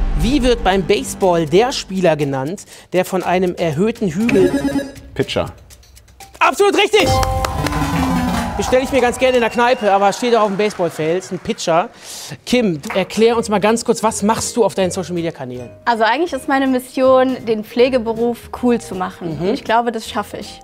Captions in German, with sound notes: Wie wird beim Baseball der Spieler genannt, der von einem erhöhten Hügel ... - Pitcher. Absolut richtig. (Jubel, Applaus) Bestell ich mir ganz gerne in der Kneipe, aber steht auch auf dem Baseballfeld, ein Pitcher. Kim, erklär uns mal kurz, was machst du auf deinen Social-Media-Kanälen? Eigentlich ist meine Mission, den Pflegeberuf cool zu machen. Mhm. - Und ich glaube, das schaffe ich.